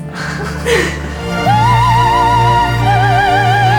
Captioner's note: giggling